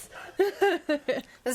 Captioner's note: laughs